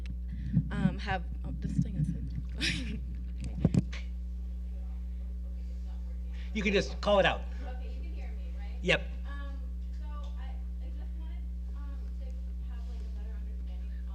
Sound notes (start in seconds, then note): 2.5 chuckles; 3.7 mic interference